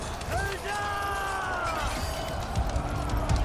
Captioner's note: crowd Cheers